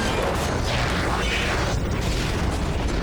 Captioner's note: explosion